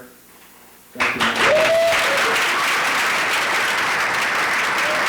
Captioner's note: audience applauds